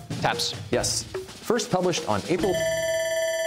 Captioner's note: bell ringing